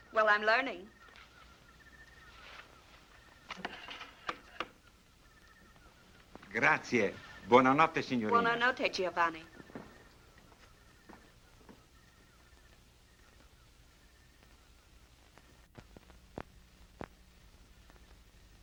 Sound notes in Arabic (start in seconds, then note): 6.6 الصوت المنطوق باللغة الإيطالية